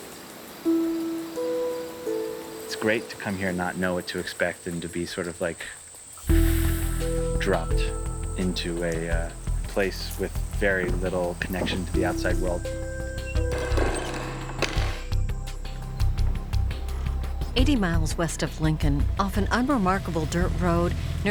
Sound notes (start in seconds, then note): 16.7 door creaking